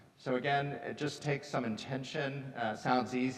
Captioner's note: none